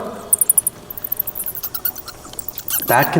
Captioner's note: bat squeaking